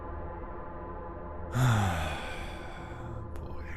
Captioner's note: sigh